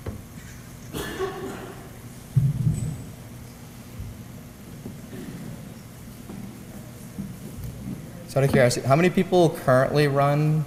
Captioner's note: cough